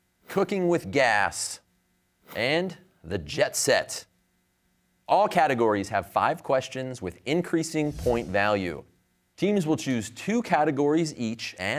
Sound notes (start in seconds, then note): none